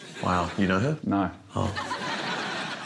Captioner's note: laughter